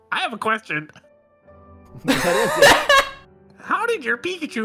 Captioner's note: someone laughs very loudly